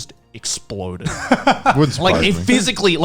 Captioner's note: laughing